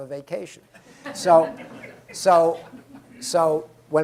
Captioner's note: laughter